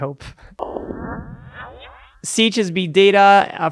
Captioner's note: electronic echo